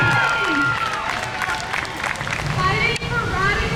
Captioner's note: crowd; crowd cheers